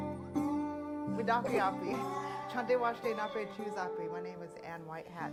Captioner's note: speaking in foreign language